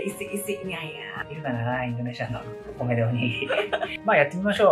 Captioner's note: laughs